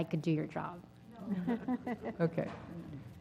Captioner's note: laugh